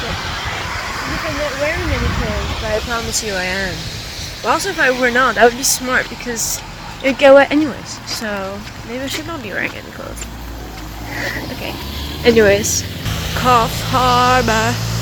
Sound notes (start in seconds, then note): 11.0 hehehe